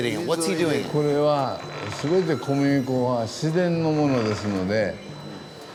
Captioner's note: speaking Japanese